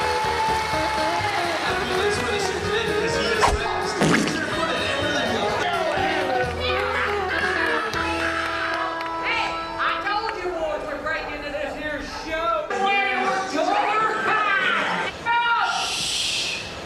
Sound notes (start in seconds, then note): 0.2 indistinct chatting; 7.1 cowboys cheering